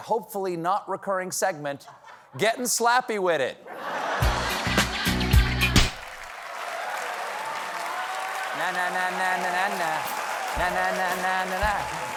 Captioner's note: slap